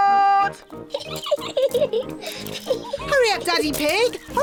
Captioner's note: giggling